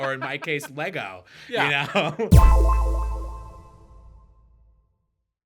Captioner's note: tone echoing